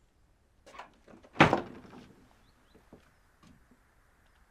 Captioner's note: door slams